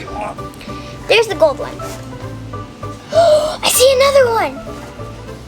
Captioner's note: gasps